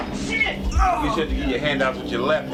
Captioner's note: yells